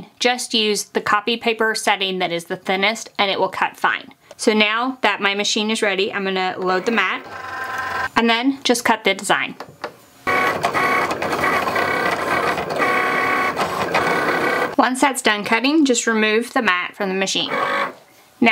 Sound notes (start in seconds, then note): 10.2 machine cutting